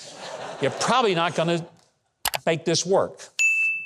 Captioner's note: audience laughing; mouse clicking; bell dinging